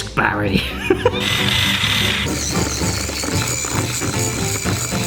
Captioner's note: whisk whirring